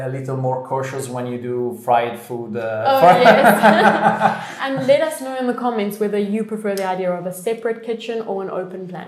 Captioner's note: laughter